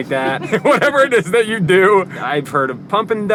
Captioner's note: laughing